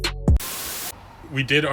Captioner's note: TV hissing